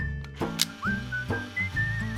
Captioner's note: click